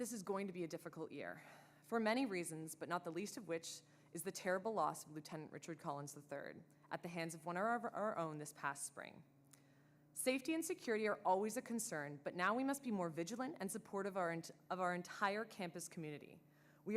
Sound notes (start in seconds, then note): none